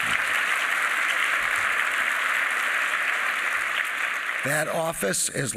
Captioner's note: applause